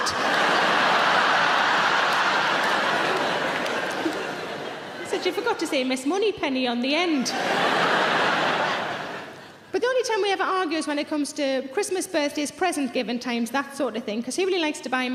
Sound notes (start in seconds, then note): 0.0 audience laughing loudly